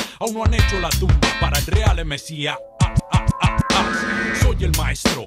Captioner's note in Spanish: ah, ah, ah, ah